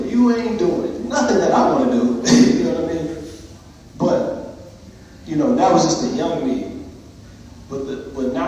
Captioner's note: laughs